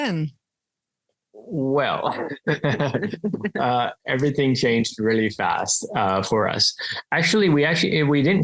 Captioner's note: laugh